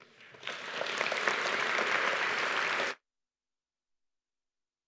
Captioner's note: audience applauding